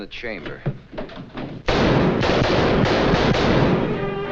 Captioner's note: gunshots banging; dramatic music